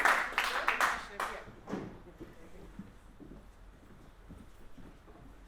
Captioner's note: room movement sounds, footsteps and audience murmuring